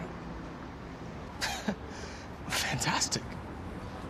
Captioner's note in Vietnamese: cười khẩy